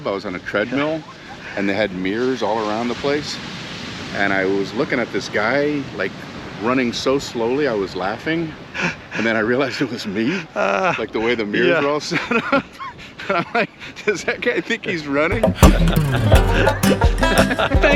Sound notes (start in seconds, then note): 12.4 both laugh; 15.3 both laugh